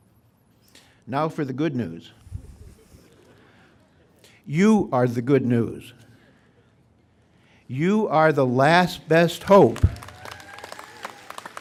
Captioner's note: applause